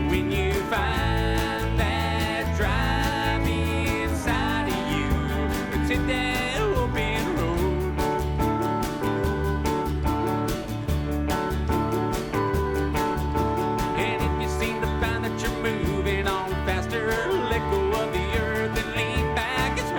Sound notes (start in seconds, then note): none